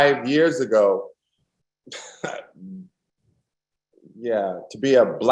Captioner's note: laughs